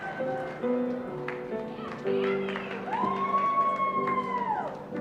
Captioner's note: applause and cheering